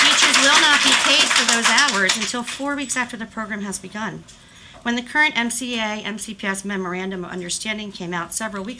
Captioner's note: applause